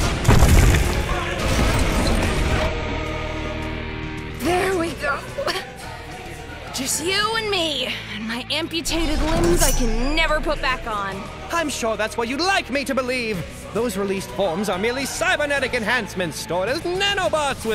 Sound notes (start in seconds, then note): 5.3 cough